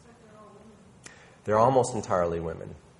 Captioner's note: woman mumbling